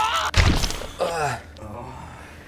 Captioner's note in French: Explosion